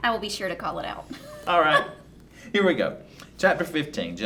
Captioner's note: laughing